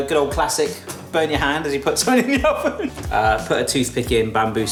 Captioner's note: laughs